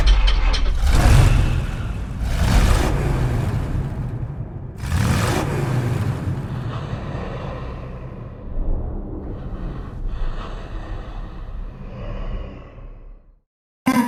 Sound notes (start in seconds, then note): 0.9 car revving its engine; 4.9 car revving its engine